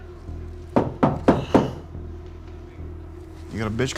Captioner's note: tense music; knock on door